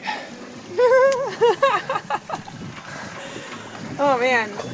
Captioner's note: laughs